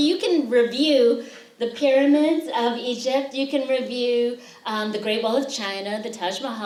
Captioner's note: none